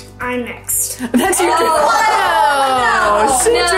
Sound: everyone cheers

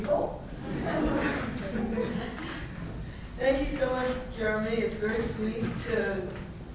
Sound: laugh

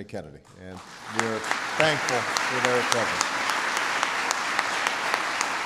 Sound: applause

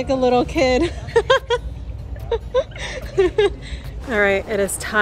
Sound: laughs

